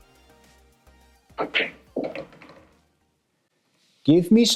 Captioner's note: ball smacks and rattles